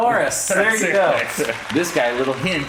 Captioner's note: audience applauds